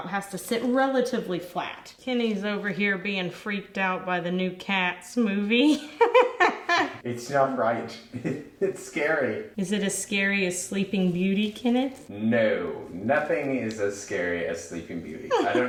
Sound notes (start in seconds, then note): 8.0 laughs